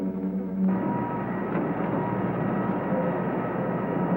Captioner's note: machinery rumbling